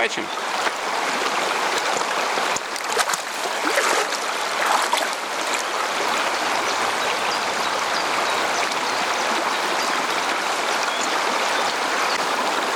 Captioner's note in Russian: шум реки